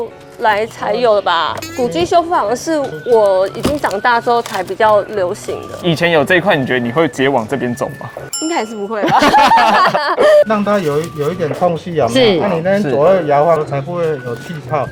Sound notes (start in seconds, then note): 9.0 laughter